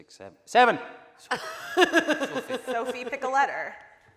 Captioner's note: laughing